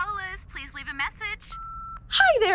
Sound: phone beeps

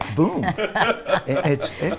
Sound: laugh

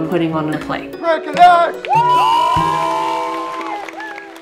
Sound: crowd cheers

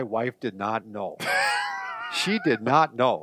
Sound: laughs

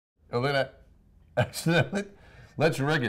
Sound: laughter

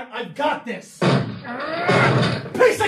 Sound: front door wood crunching

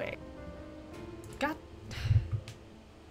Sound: sighs

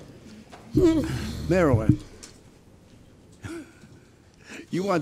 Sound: giggles

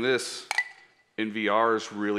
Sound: pen clinks

